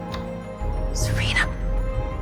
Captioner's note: voiceover; whispering